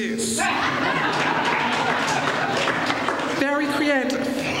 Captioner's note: laughter